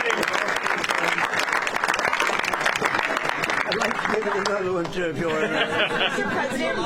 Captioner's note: applause